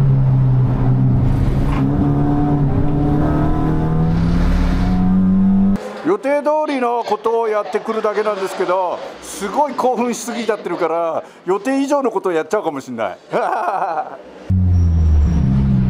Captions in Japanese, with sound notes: < This battle continues until their pit stop.> My task is just drive as planned in advance, but I'm too excited for that, maybe I would to little too much. (laugh)